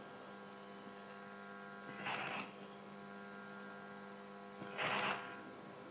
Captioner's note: static buzzing continues